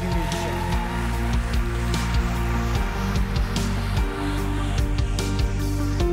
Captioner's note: audience cheering; upbeat music